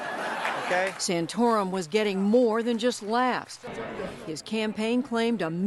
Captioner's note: laughter